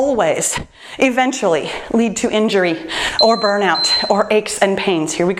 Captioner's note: timer beeps